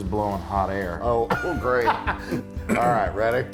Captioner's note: laugh; cough